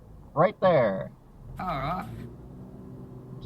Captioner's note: Australian accent